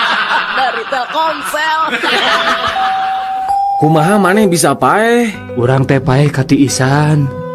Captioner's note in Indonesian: tertawa